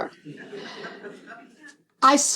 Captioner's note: laughter